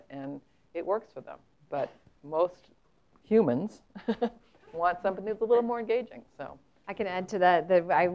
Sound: laugh

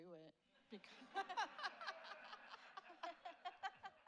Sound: laughs

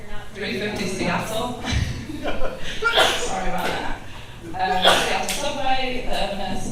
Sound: chuckles

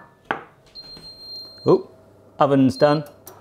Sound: timer ringing

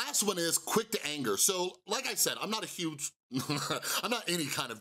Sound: chuckles

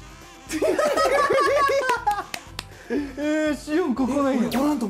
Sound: haha

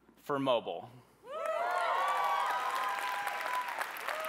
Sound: cheering

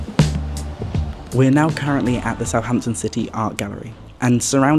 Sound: quietly

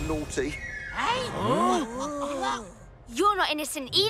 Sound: all gasping

